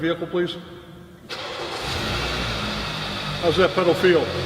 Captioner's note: car Starting